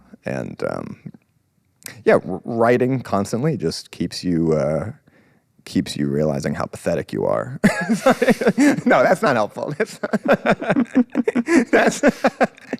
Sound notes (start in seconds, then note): 7.6 laughs; 9.7 both laughing